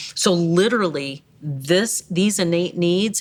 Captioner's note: none